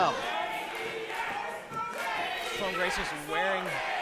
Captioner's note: crowd